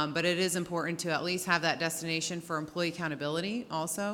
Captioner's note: none